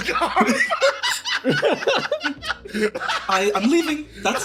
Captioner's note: laughs